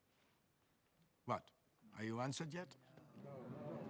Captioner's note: crowd